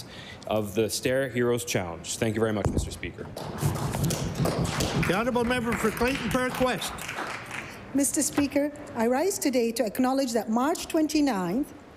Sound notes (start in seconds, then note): 6.9 applause